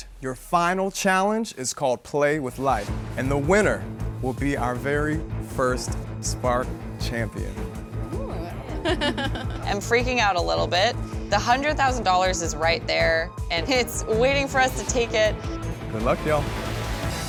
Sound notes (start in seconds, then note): 8.6 nervously chuckling